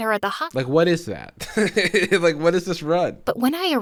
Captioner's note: laughs